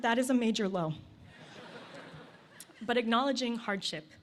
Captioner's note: laughter